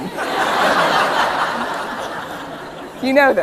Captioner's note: laughter